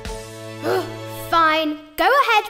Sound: triumphant music; groans

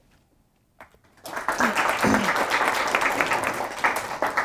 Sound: applause

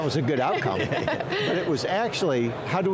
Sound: laughing

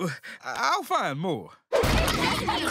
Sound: laughing

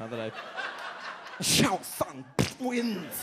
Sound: audience laughs

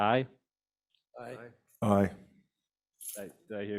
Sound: board members call aye

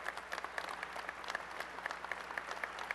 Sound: applause

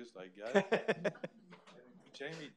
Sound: laughs

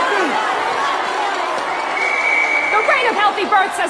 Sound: whistle blows

